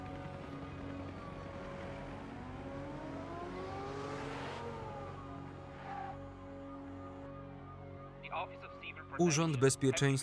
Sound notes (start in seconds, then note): 1.7 sirens wail; 1.7 somber instrumental music